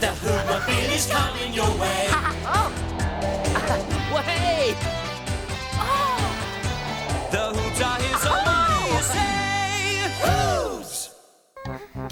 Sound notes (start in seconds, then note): 0.0 soft rock music; 2.6 laughs; 6.8 rock music; 11.9 humming; 11.9 upbeat music